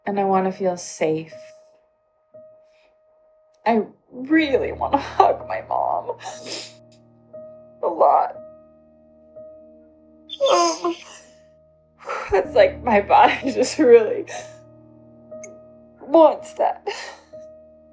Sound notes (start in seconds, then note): 6.4 crying